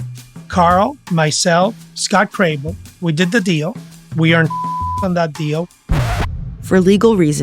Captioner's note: beep